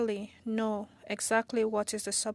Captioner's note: speaking French